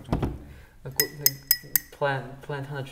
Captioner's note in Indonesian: ASMR mengetuk keramik